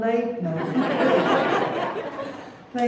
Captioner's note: laughter